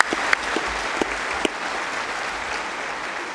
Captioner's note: applause